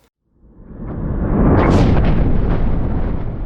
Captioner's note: thunder crashing